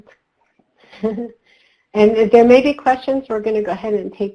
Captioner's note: laughs